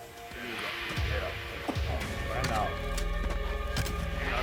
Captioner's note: speaking alien language